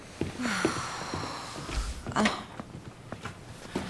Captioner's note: sighs